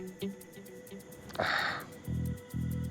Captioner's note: sighs